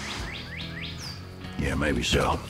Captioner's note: birds chirping